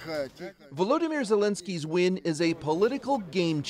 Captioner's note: speaking russian